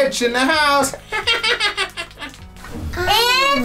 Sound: laughter

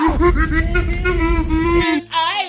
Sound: laughing distorted; flames crackling

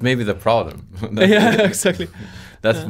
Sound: both chuckling

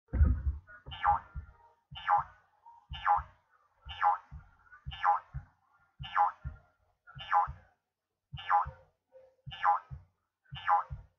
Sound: jumping sound

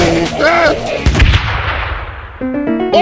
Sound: wood creaking and banging, funky music, flying noises, short scream; explosion, ambience temporarily silent

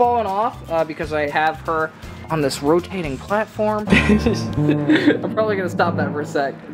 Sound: laughs

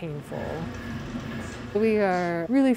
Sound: machine whirring

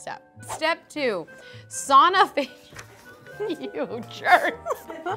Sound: laughs

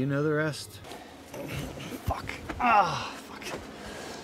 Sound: struggles in pain

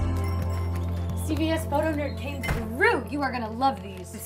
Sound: bell jingling

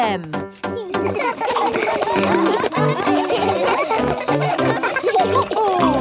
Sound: all laugh

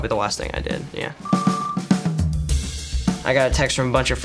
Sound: beeps

